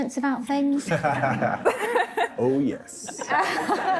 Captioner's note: laughing